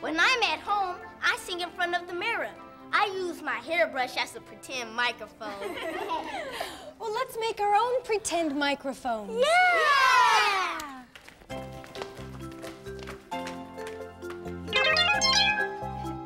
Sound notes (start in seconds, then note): 5.6 everyone laughs; 11.4 cheerful music